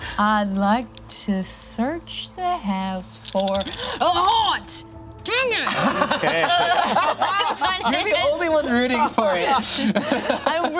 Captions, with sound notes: I'd like to search the house for a haunt! Dang it! (group laughs) You're the only one rooting for it.